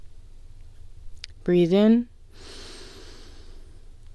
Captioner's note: inhale